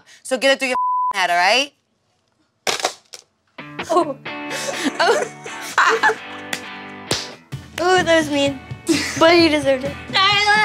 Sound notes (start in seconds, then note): 2.7 phone slams; 3.8 laughing; 3.8 laughs; 6.4 clapping